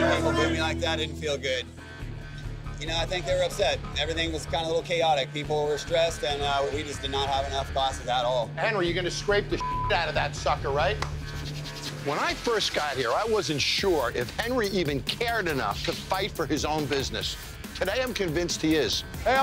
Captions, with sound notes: People boo me like that, it didn't feel good. You know, I think they were upset. Everything was kind of a little chaotic. People were stressed and we just did not have enough passes at all. - Henry, you going to scrape the (beep) out of that sucker, right? When I first got here, I wasn't sure if Henry even cared enough to fight for his own business. Today I'm convinced he is.